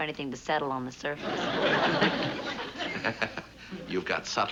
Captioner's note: laughs